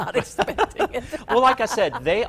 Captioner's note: both laugh